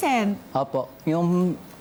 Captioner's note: politely